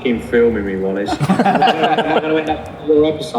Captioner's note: laughing